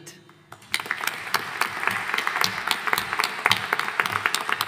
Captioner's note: audience applauding